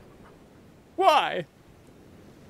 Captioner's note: sobbing